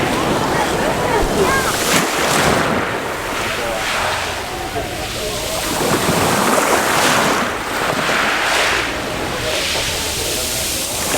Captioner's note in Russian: плеск во лн